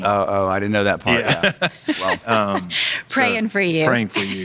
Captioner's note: laughing